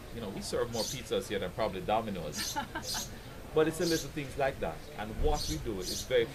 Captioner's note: laugh